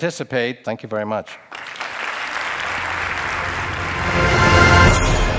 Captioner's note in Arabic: تصفيق